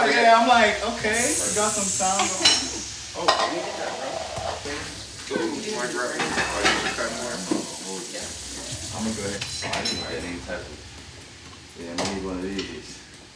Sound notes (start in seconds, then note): 4.2 utensils clattering